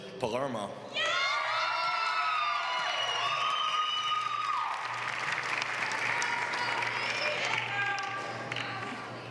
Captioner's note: applause